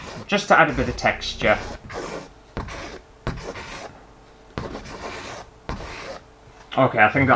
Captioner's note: pen Scraping On Canvas